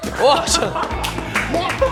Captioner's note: laughing